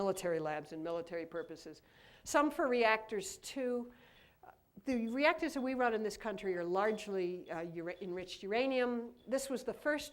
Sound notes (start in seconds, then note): none